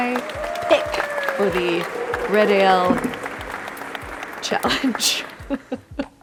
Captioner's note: audience applauds; laughs